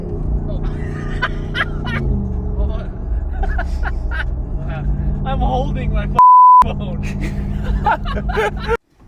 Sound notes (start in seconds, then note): 1.1 laughs; 2.6 laughing; 6.1 beep; 6.9 all laughing